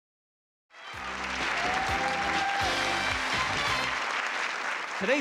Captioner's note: applause